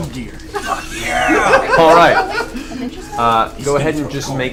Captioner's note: all laugh